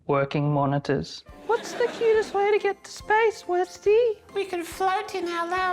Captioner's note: squeaky voice